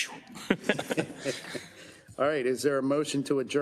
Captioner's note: council laughs